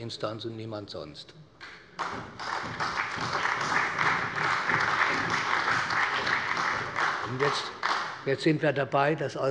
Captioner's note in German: Allgemeiner Beifall